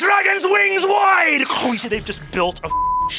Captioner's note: crunching; beeping